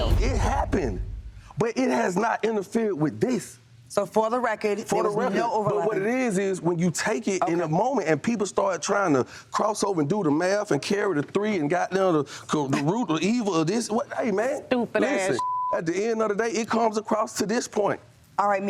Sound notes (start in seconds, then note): 15.4 beep